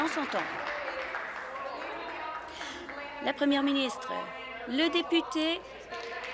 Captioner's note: applause